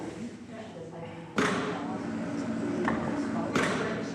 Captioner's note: click! gentle chatter; click!